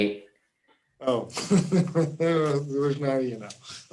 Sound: laughing

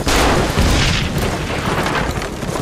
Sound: explosions

